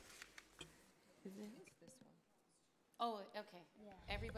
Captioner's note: board member speaks off microphone